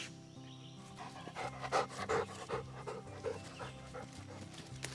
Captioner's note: dog pants loudly